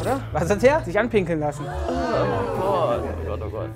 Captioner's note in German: Angeekelte Rufe